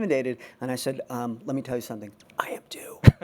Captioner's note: whispers